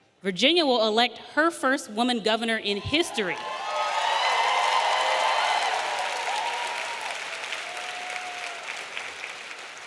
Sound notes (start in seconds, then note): 3.0 audience cheering; 3.4 audience applauding